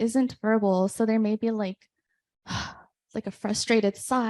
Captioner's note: sighs